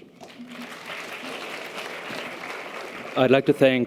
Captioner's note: audience applause